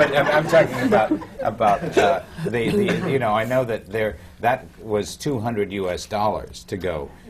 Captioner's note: laughter